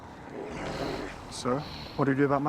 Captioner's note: growling